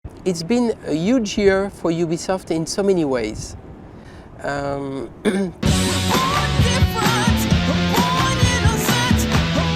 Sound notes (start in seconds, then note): 5.2 clears throat